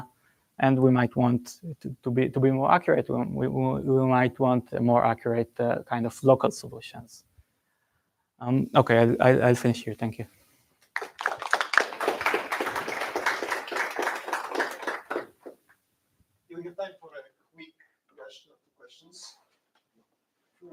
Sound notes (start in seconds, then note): 10.8 applause